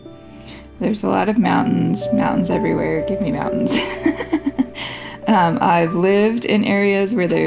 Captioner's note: laugh